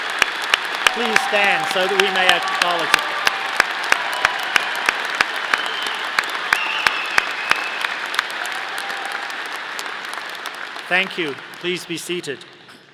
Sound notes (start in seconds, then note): 0.0 audience applauding; 3.7 audience applauding